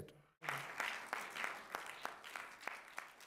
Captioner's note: applause